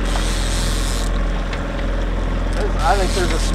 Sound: reel clicking in

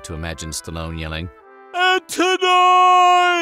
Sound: imitating stallone

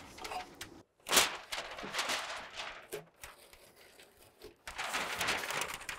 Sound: insulation paper rustling

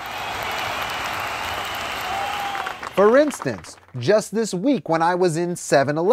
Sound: crowd cheering

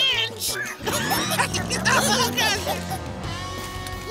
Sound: giggling

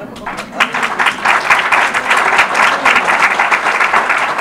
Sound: audience applause

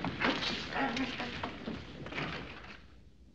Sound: muttering

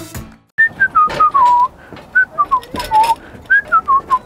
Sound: whistling

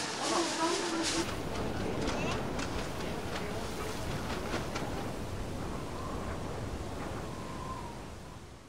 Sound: wind

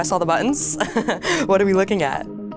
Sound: laughs

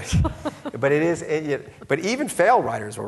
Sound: laughing

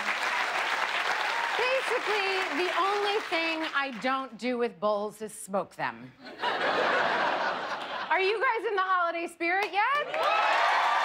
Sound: cheers and applause

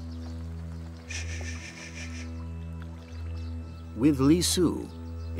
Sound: Ying Zheng shushing

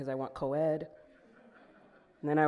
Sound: audience laughing

